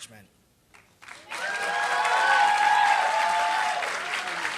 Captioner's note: applause